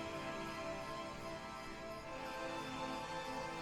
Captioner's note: nighttime insects